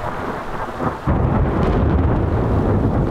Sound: thunder

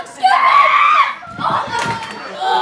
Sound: shrieks

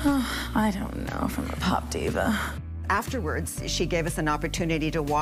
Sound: sighs

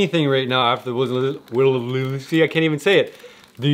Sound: slurs words

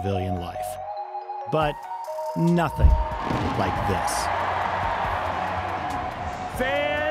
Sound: fireworks pop and fans cheer

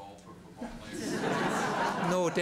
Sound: laughter

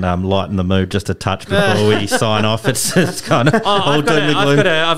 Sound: laughter

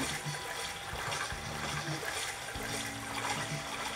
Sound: water splashing; calm music

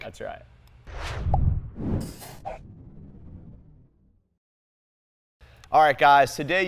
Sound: ball swishing

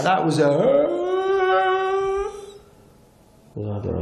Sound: wails

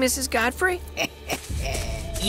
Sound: chuckles

